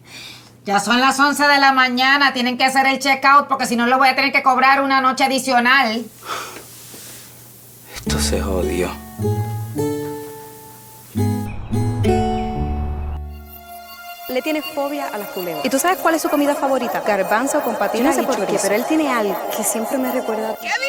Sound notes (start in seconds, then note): 6.1 breathes; 14.0 Mariana's voice in echo